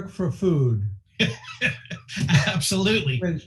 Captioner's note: laughing